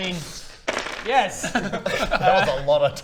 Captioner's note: dice clattering